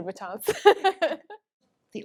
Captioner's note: both laugh